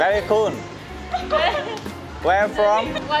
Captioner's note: laughter sounds